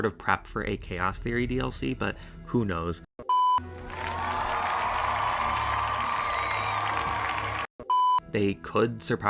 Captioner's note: cheering